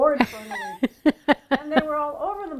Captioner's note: laughing